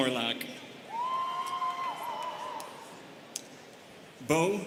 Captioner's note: students cheering